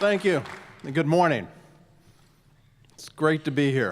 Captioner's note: applause